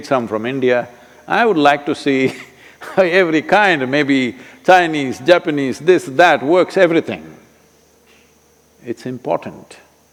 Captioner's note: laughs